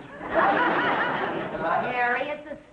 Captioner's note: audience laughing